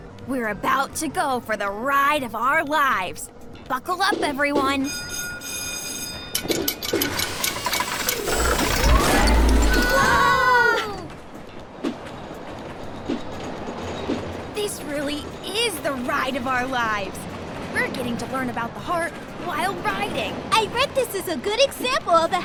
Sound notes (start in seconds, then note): 4.8 bell ringing; 6.3 rollercoaster machinery clinking; 12.0 rollercoaster speeding